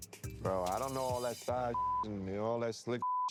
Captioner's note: beep